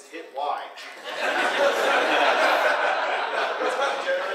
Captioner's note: audience laughing